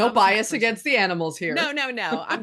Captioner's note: chuckles